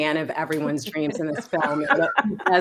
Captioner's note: group laughing